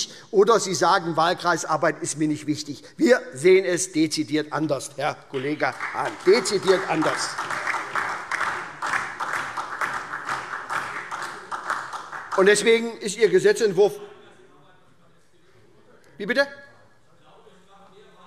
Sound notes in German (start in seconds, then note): 7.4 Beifall